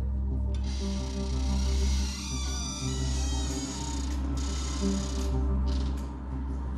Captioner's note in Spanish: puerta rechina